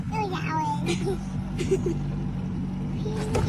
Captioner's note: speaking in foreign language; door creaking